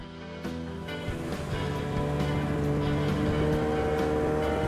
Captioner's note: engine roaring